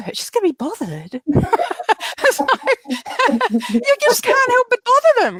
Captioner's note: laughing